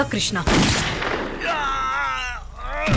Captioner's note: gunshot